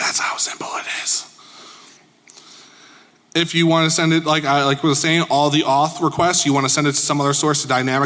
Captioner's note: whispering